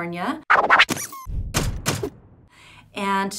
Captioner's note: record scratching, ducky squeaking